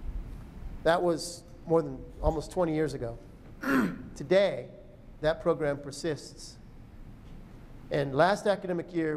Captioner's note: clears throat